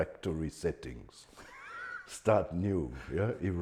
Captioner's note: laughing